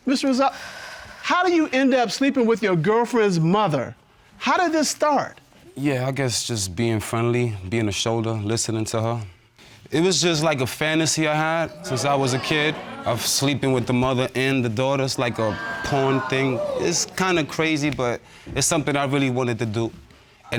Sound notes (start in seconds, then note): 11.4 audience exclaiming